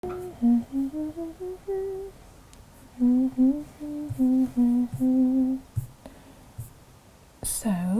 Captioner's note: humming